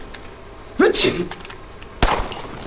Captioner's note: sneezes